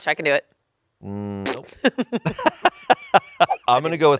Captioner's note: laughs